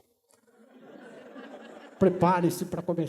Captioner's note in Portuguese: risos